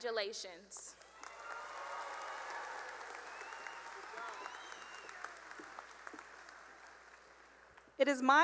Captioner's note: cheering and applause